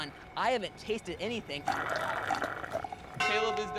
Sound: slurping

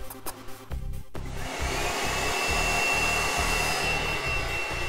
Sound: vacuum whirring

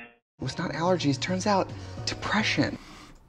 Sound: none

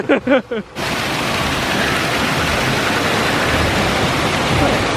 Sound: waterfall roaring

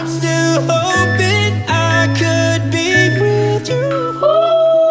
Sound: timer beeping

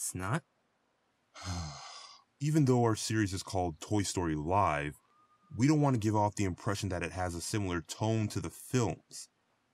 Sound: sigh

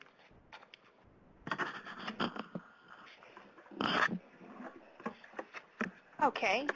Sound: pause

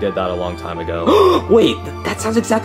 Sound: Luigi gasping

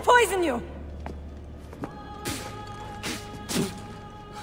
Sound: Cesare spits

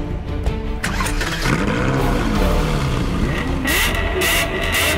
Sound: car engine

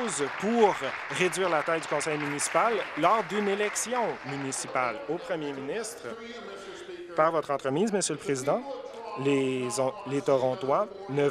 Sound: applause

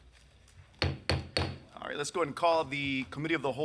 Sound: gavel taps

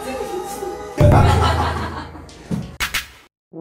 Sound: laughter

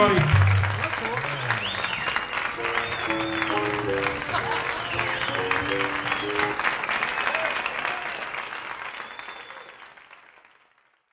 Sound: applause & whistles

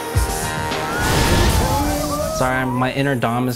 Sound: ride crashing

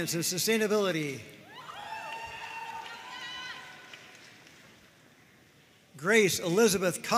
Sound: audience cheering and applauding

